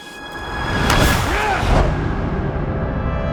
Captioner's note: grunting